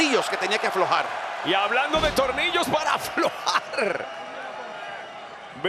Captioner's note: laugh